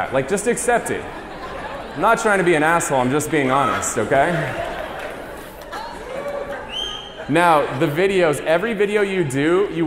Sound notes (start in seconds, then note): 1.2 laughter; 5.2 audience laughs and cheers